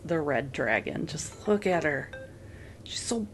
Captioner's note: phone went BooDoopBeep. Thanks phone